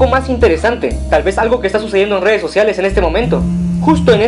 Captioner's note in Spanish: sonido de celular vibrando